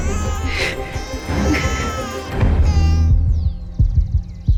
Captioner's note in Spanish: Continúa el llanto del bebé